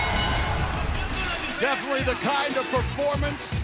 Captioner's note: bell ringing